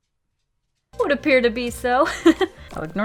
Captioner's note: giggle